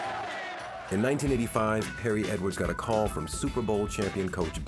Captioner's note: crowd cheering